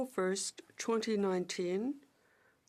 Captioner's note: speaking French